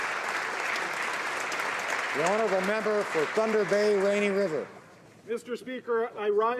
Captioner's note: applause